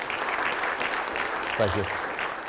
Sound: clapping

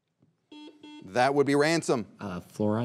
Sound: buzzer beeps twice

